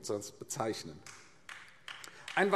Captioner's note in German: Vereinzelter Beifall AfD